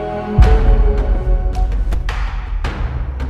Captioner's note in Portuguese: estrondo grave; trilha tensa